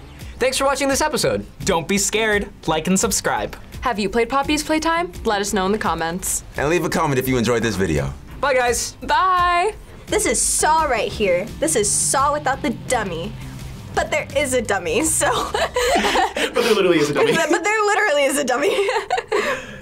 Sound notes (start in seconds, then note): 15.0 laughs